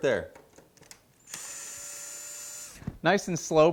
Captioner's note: drill whirling